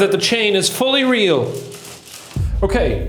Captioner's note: chain rattling